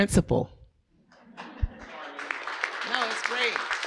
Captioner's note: audience applauding